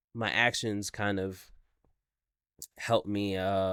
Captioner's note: none